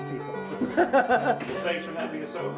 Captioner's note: laughs